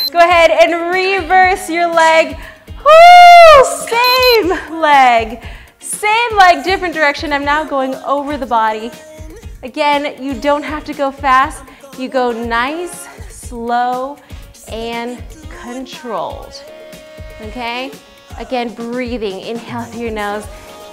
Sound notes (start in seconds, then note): 4.0 beeps; 4.3 shouts